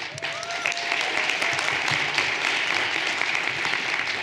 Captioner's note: everyone applauding